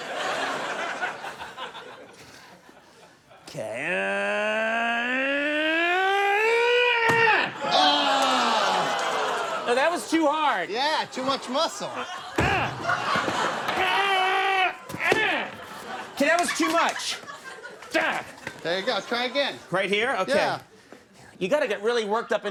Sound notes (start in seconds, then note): 0.0 audience laughs; 3.6 Conan groans; 12.5 Conan grunts